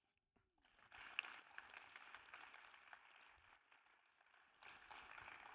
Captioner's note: audience applauding